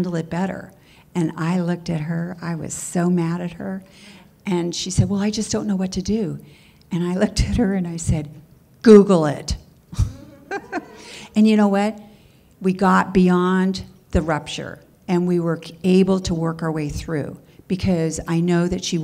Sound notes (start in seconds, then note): 9.9 laughter